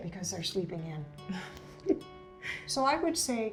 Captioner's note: chuckles